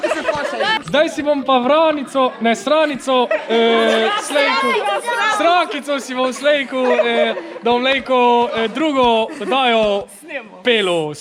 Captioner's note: tries to speak in dialect